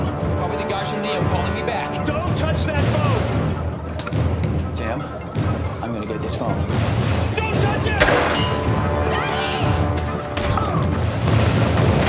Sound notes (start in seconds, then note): 8.0 gun fires